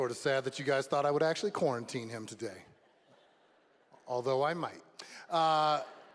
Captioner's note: applause